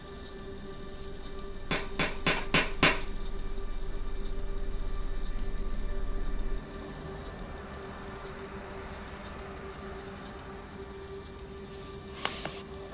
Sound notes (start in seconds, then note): 1.6 the drone grows louder. sharp screeches; 2.0 knock on the door